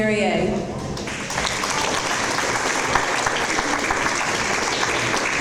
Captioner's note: audience applause